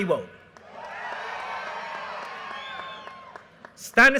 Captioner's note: audience cheers and applause